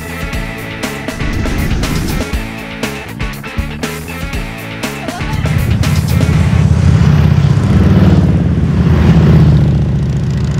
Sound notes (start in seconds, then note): 5.3 motorcycle engines rumbling